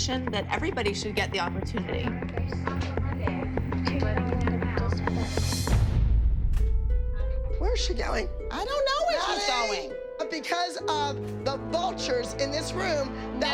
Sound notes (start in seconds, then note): 2.3 indistinct chatter; 2.3 tense music; 5.3 dramatic music